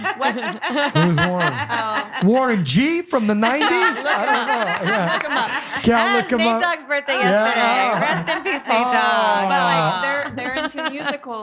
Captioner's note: laughing